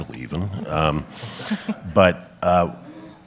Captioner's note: audience laughs